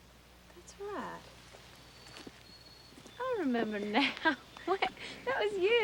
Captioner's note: laughs